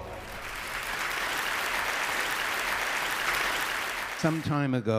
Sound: applause

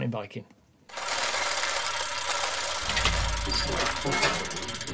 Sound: gears ratcheting

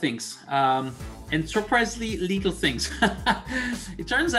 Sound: laugh

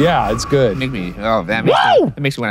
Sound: cheering

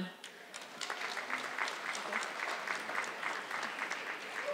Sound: audience clapping

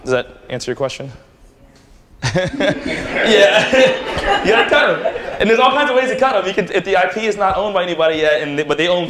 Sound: laughter

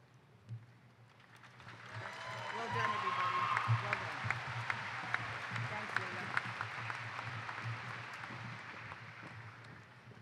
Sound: applause

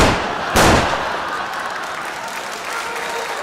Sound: gun shots; crowd Laughing

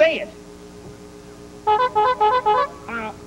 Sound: honking sounds

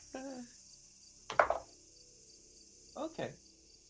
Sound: dice tapping

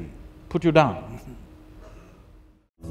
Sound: laughs

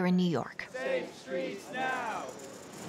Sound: chanting

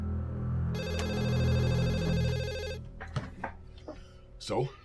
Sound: phone rings

